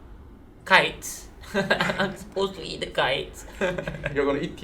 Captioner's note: nervous laugh